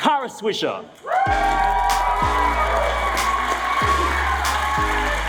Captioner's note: audience cheering